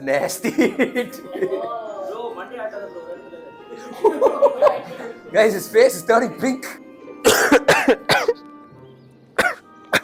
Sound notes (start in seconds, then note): 0.4 laughs; 7.2 coughs